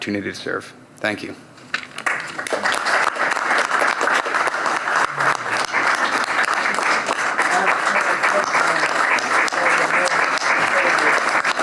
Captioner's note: applause